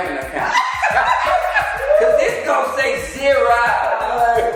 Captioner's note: laughing